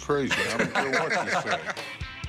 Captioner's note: laughter